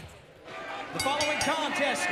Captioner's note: bell ringing